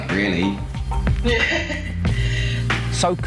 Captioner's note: laughs